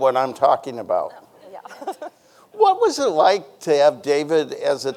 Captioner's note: chuckles